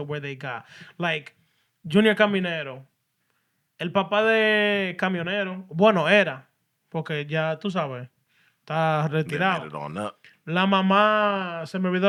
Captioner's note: speaking Spanish